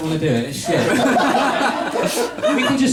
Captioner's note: laughter